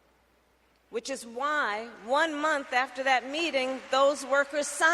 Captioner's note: applause